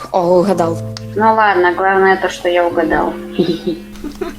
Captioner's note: giggles